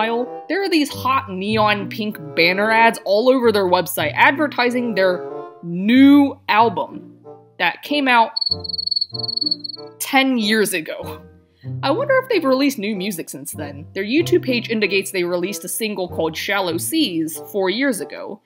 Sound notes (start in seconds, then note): 8.3 cricket sounds